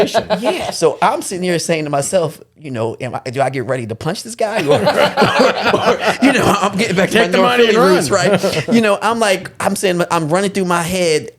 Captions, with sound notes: - Yeah, so I'm sitting here saying to myself, you know, "Do I get ready to punch this guy?" (all laughing) You know, I'm getting back to my door. - Take the money and run. - You know, I'm like, I'm saying, I'm running through my head.